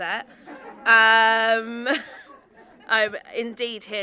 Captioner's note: audience laughing